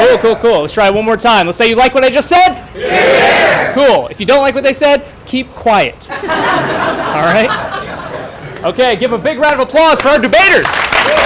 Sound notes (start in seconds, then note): 6.0 laughter